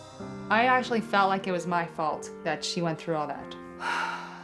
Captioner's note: none